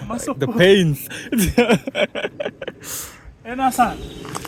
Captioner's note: laughs at struggling man